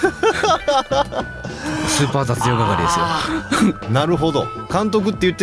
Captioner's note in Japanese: 笑い